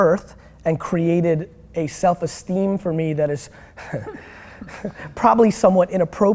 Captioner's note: chuckles